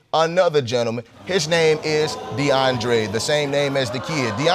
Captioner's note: audience exclaiming